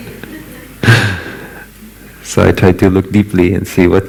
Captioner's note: laughter